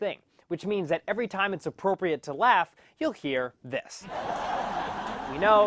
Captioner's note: laugh track